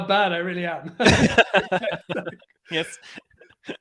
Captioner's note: everyone laughs